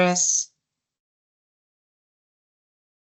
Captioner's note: silence